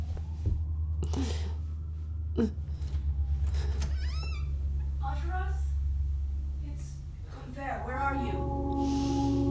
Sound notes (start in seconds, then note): 2.8 front door opening